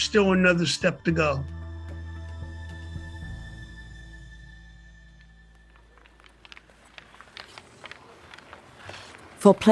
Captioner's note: sfx: hockey game